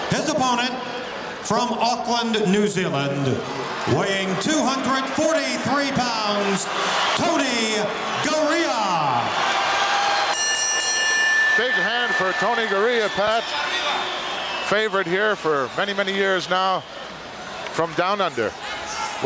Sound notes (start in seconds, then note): 9.0 audience cheering; 10.2 bell ringing